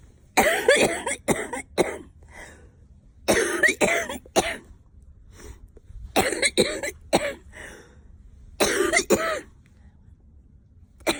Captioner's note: coughing